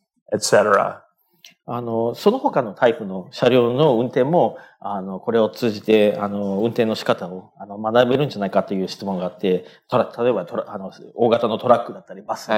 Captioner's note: speaking japanese